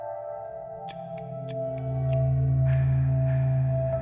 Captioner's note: soft, rhythmic panting; sticks clap